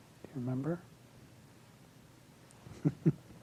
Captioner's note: giggles